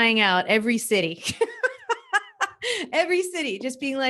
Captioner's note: laughs